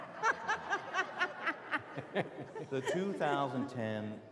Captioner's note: laughter